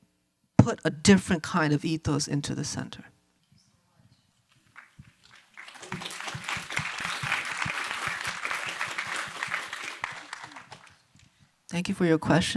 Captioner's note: applause